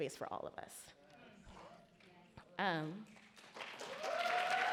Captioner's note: audience cheer and applaud